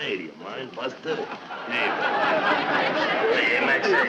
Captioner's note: audience laughing